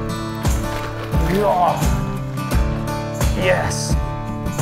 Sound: grunts

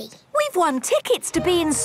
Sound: none

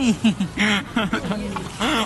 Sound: cutest laugh

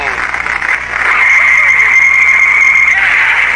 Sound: tires screeching

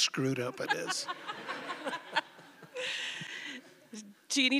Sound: laughter

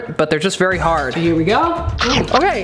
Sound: crunch

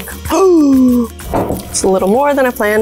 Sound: gasps

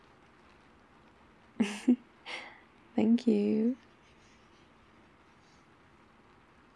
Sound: laughs in success XP

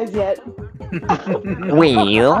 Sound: laughing

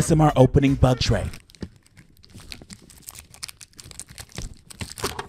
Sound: plastic crackling

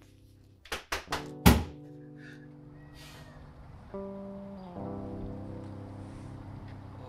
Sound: gentle quiet music; sobbing; gentle quiet music; Jonah thumps surface

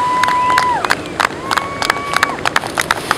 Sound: cheering

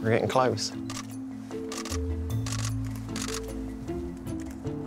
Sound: camera shutters

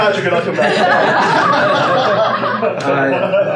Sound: laughing

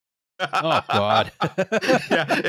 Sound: laughter

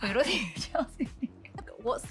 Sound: Chrishell laughs

